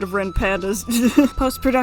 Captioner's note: chuckles